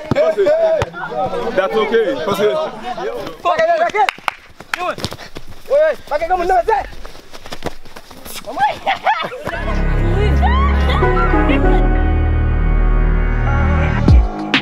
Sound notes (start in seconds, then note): 3.1 clapping and talking